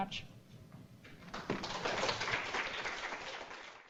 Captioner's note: clapping